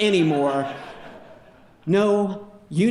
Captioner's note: audience laughing